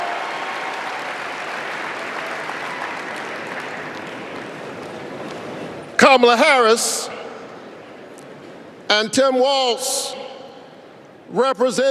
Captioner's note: applause